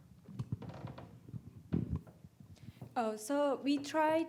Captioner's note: mic thudding